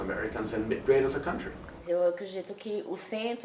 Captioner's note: speaking portuguese